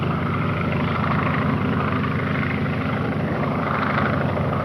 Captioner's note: engine droning